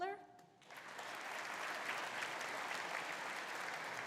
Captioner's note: audience applauding